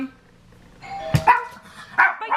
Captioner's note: doorbell